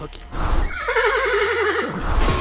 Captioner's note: neeeigh; heavy metal